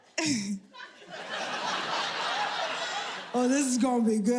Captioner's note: audience laughing